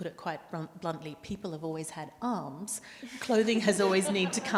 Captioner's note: panelists and audience laugh